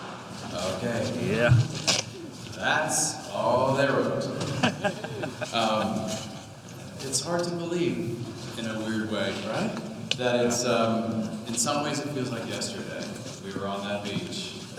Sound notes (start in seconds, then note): 4.4 Depp chuckling